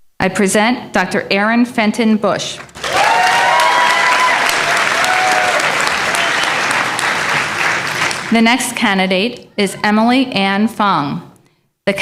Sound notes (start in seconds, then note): 2.6 applause